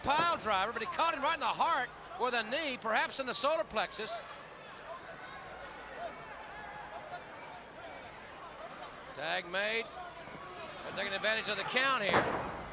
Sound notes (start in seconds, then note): 4.4 crowd chatter